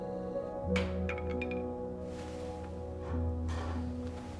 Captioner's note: objects clatter